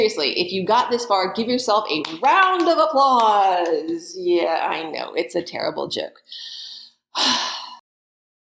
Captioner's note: sigh